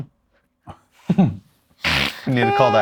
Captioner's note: laughing